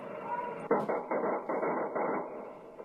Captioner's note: muffled gunshots